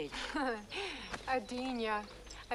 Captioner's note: Hundra scoffs